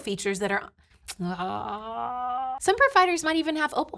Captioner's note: sucks teeth